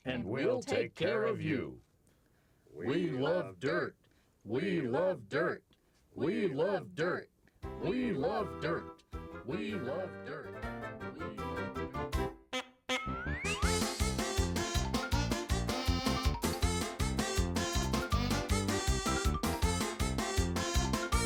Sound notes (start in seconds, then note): 9.7 upbeat silly music; 14.0 honking